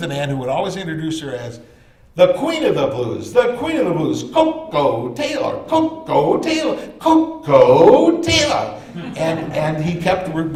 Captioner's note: laughter